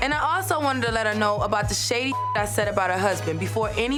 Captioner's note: beep